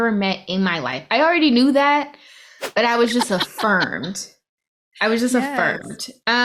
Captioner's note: laughs